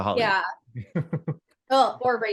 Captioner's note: laughing